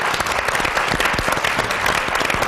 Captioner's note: applause